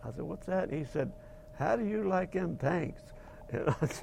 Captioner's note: laughing